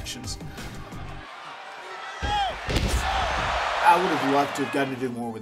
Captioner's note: applause